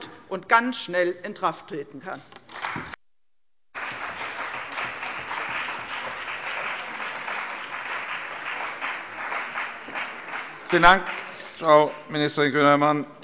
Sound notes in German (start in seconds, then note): 3.7 Beifall bei der CDU und dem BÜNDNIS 90/DIE GRÜNEN